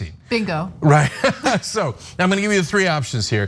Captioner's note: laugh